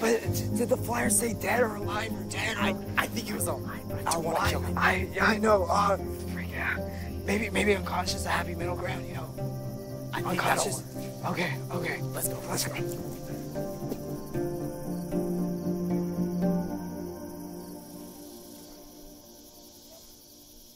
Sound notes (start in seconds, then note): 16.3 crickets